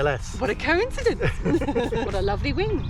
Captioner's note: both laughing